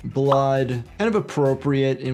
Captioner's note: soft music; graphics popping